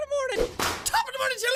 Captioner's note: whip crack